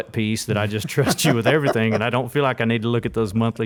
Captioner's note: laughs